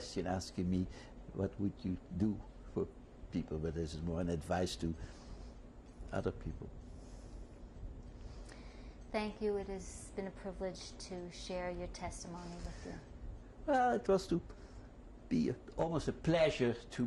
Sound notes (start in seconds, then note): none